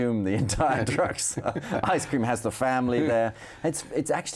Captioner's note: laughs